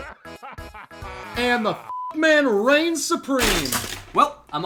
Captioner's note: beeps